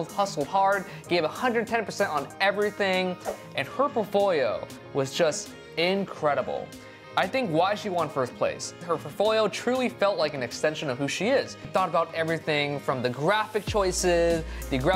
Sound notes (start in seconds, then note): none